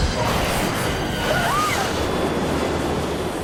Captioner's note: scream